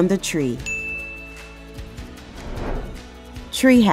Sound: bell Rings

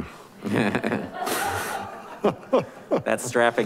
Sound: laughing

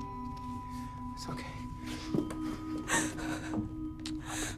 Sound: whimpering; kiss

